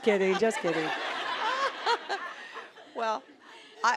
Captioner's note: audience laughing